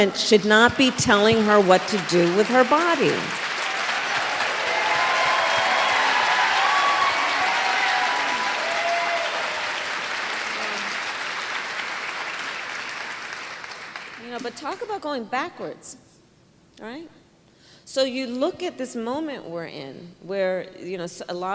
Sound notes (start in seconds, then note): 5.0 applause